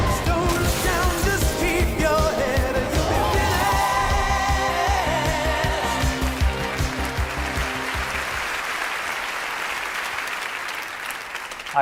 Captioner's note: applause